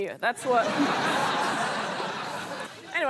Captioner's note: laughter